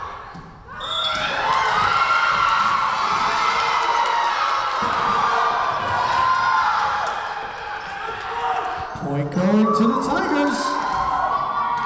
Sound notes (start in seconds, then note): 0.8 whistle blowing